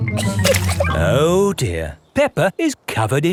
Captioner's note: chuckles